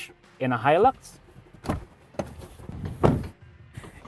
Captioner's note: door opens; door closes